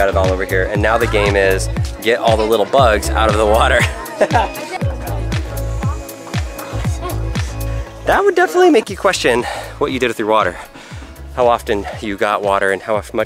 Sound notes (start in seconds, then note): 4.1 laughs; 5.9 children chattering